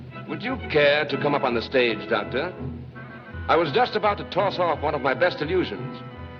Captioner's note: none